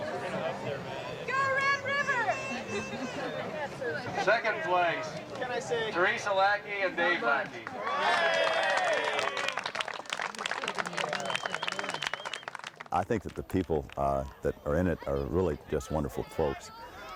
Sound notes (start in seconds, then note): 7.6 onlookers applaud